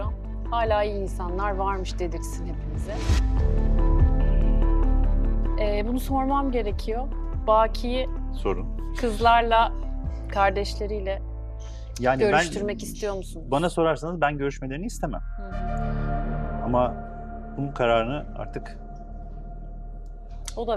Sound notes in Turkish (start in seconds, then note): 12.0 homurdanır